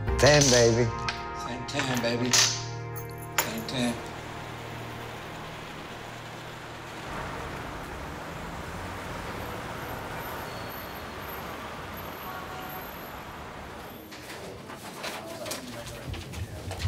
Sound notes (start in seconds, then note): 5.6 rain splattering; 14.1 rustling